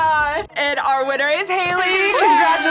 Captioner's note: air horns blaring